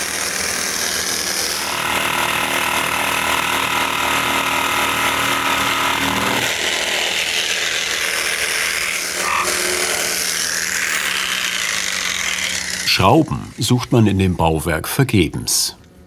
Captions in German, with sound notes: (Ratterndes Surren) Schrauben sucht man in dem Bauwerk vergebens.